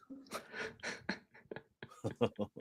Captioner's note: chuckles